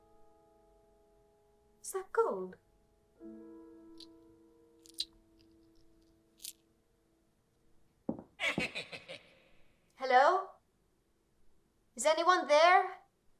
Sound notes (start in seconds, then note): 8.4 leprechaun laughing